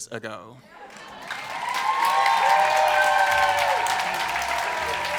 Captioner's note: cheering